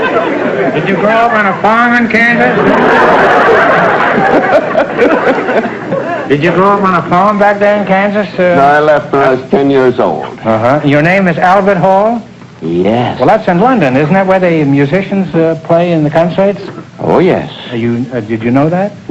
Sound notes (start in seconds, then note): 2.3 audience laughter